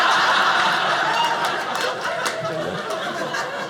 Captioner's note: audience laughing